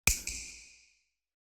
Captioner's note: snap